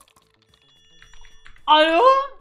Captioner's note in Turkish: telefon sesi